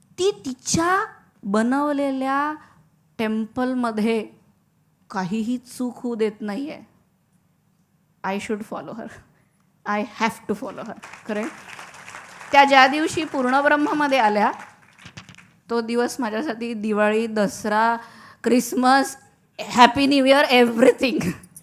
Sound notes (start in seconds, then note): 10.6 applause